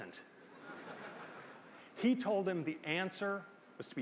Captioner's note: laughter